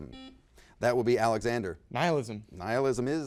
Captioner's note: buzzer beeps